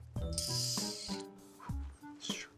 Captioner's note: making a whistling noise; making a panting noise